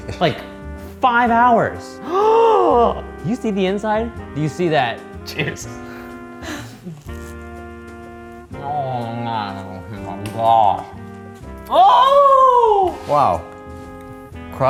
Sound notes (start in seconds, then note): 2.0 gasping; 11.6 shrieking